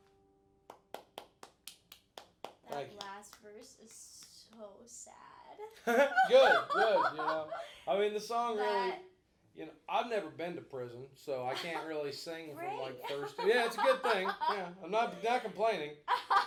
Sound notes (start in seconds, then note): 0.7 applauding; 5.8 both laughing; 12.9 laughing